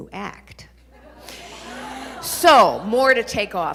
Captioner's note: audience laughing